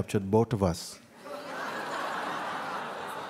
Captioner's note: laughter